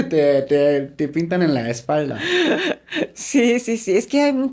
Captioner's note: laughs